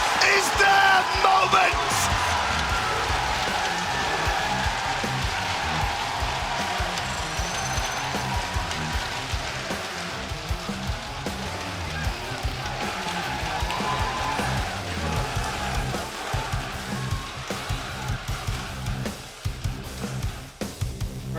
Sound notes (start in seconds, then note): 4.4 crowd cheering